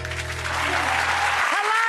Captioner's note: clapping